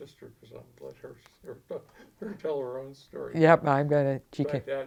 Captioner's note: laughs